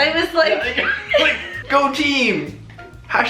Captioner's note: laughing